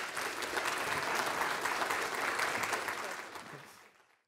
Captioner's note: applause